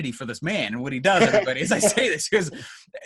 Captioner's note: laughs